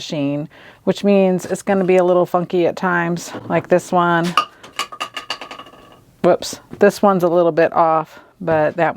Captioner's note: sound of something dropping